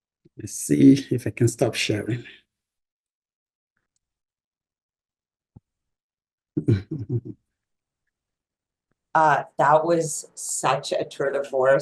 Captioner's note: laughs